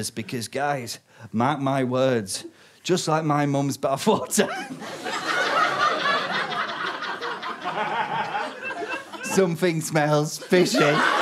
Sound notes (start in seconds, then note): 4.4 audience cackles; 10.3 audience loses it